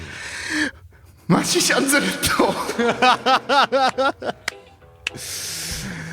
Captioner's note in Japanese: 笑い